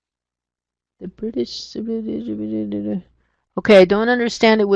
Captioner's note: mumbling